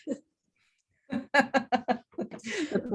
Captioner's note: both laugh